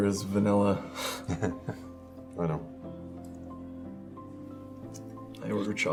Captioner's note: Chuck laughs